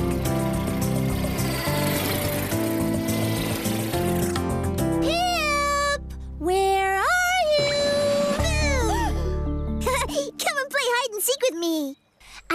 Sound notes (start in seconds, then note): 8.8 Fifi Gasps; 10.0 chuckles